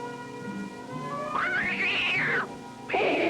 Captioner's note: cat screeching